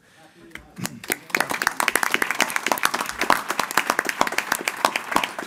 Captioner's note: audience applauding